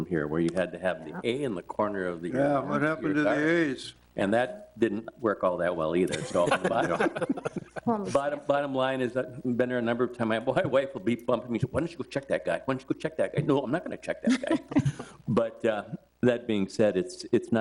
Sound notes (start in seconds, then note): 6.0 board members laugh; 14.2 board member laughs